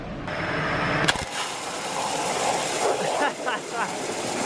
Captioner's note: sizzling; laughs